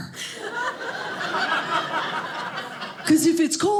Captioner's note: audience laughing